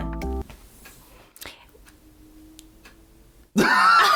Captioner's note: clock ticking